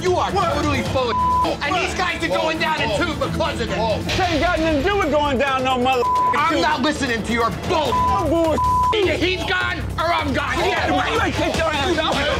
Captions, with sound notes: - You are literally full of. (beep) And these guys are going down too because of it. - They ain't got nothing to do with going down our mother food. - I'm not listening to your bull. (beep) (beep) Either he's gone or I'm gone. (yelling)